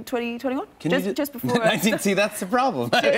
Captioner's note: laughter